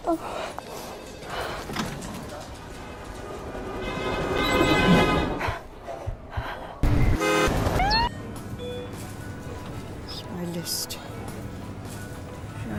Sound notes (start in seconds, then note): 3.9 cars honking; 5.3 flustered breathing; 7.1 cars honking; 7.7 doors beeping